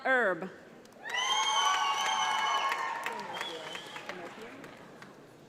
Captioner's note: audience applauds